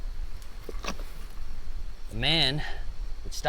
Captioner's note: stones clattering